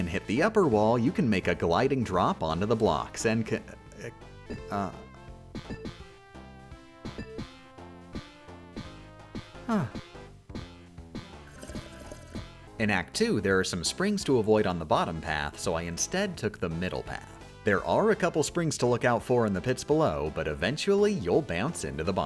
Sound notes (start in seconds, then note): 11.4 sip